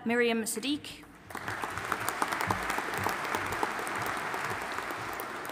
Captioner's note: audience applauding